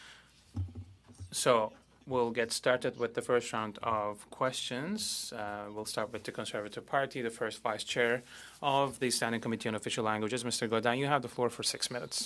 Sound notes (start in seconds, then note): 3.8 speaking French